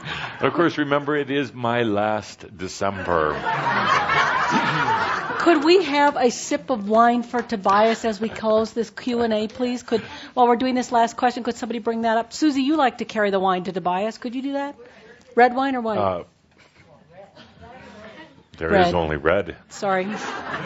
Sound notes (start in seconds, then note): 3.2 more laughter